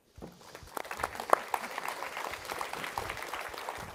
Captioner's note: applause